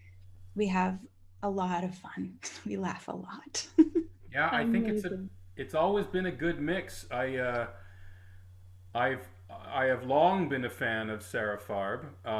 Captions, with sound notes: and we have a lot of fun. We laugh a lot. (chuckles) - Yeah. - Amazing. - I think it's always been a good mix. I have long been a fan of Sara Farb,